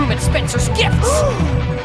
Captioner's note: g a s p